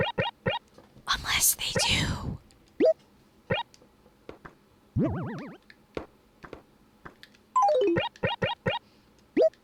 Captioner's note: whispering